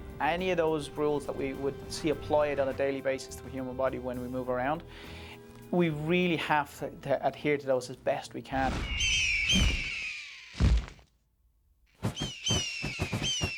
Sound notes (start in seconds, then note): 8.7 squealing